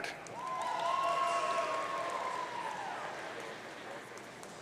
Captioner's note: audience cheering